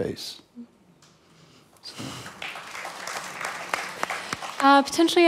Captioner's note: applause